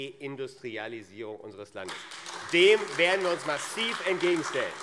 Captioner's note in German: Beifall AfD